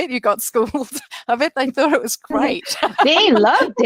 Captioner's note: laughs